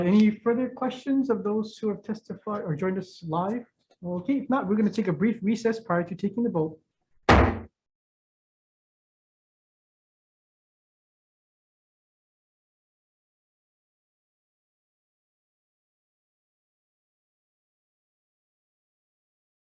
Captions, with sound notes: Any further questions of those who have testified or joined us live? Okay. If not, we're gonna take a brief recess prior to taking the vote. (gavel bangs)